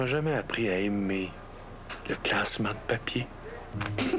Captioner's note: Rire